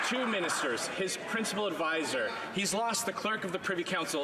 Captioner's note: some Applause